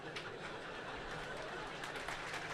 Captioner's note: clapping